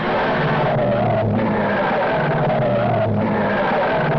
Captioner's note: tires screeching